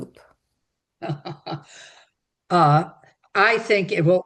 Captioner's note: chuckling